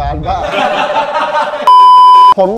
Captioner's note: laughs